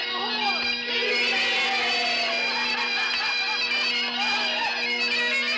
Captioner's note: men whooping